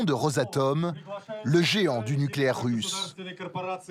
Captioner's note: Russian spoken language